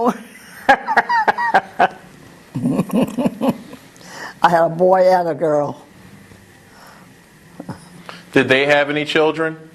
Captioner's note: laugh